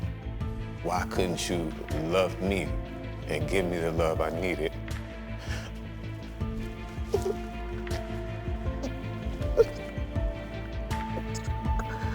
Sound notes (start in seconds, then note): 5.4 inhales shakily; 7.0 crying